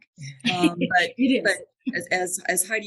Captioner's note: laughs